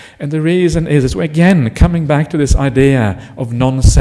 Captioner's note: none